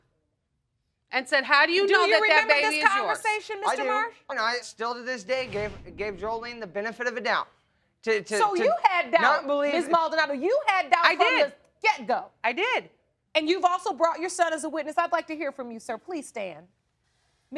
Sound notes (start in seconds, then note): 4.0 stammering